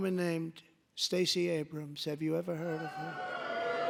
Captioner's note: booing